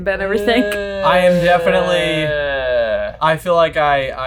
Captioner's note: moaning